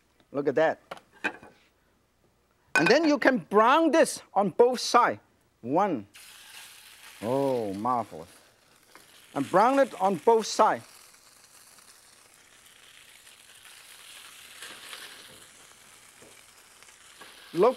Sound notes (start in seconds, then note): 11.6 salmon sizzles